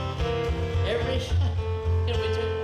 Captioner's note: laughs